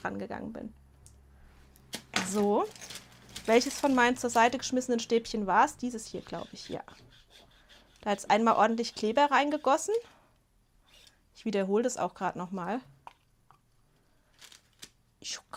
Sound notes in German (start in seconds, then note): none